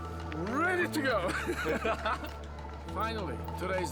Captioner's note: laughing